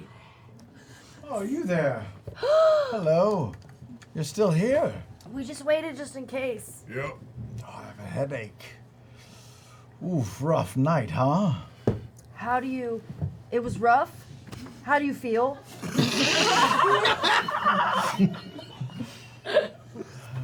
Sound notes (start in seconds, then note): 16.0 laughter